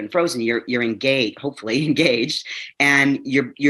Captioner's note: chuckles